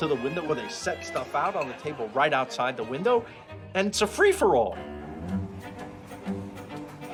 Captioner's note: shouting in Italian